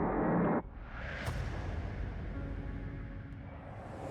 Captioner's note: explosion